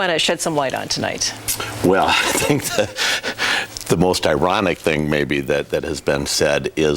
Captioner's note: laughs